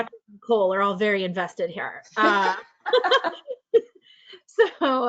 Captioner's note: laughs